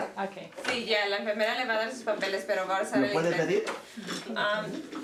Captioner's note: conversation in Spanish